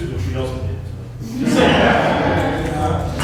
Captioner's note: laughter